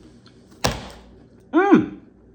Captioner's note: hands slapping